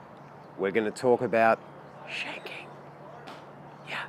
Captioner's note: whispering